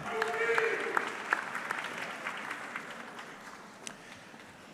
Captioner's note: audience clapping